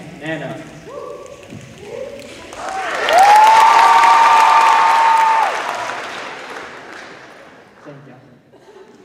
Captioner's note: cheers and applause